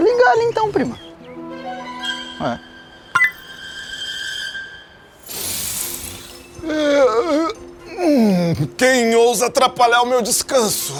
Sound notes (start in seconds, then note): 2.1 click; 5.6 man yawning